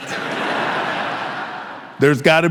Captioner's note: audience laughing